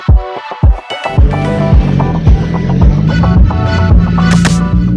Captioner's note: car engine revving